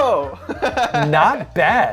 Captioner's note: laughs